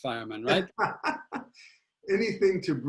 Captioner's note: laughing